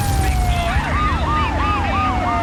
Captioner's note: explosion; tires screeching; explosion